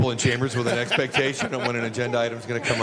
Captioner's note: laughter